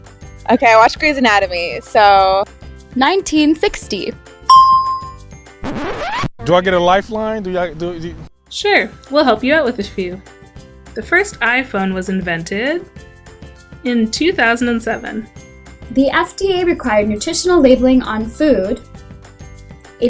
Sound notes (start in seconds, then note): 4.5 bell rings; 5.6 record scratch